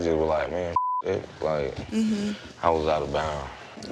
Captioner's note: Bambi mmhmms